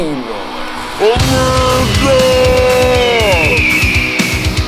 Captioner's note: eagle screeching; heavy metal rock music